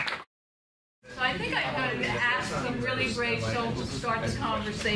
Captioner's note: members chat